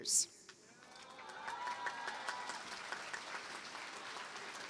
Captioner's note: cheering, applause